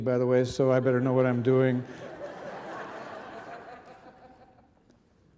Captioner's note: audience laughing